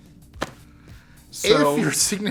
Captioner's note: laughing